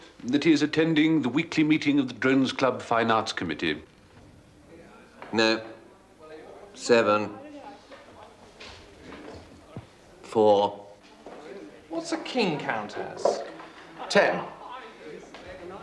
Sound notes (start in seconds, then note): none